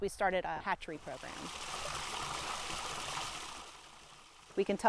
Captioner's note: water flowing into pond